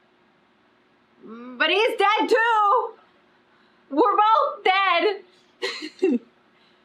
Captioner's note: laughs